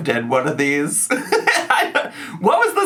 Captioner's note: man laughing